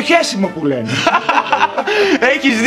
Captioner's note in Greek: γέλια